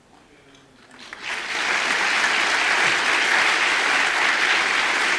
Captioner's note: audience applause